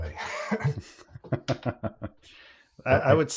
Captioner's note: laughter